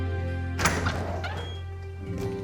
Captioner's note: door opens